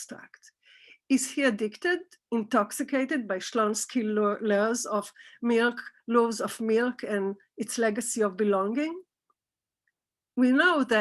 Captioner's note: Hebrew